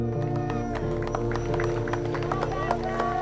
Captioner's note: cheering